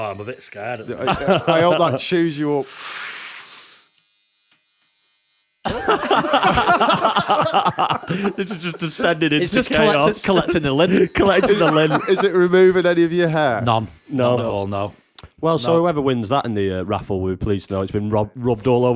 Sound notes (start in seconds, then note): 7.6 buzzing; 7.6 laughter